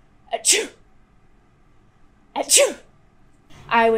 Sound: sneezing; talking

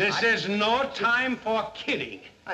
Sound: none

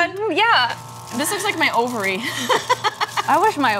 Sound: laughs

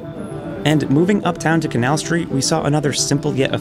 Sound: voiceover

